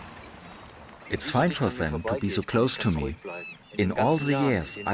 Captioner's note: in German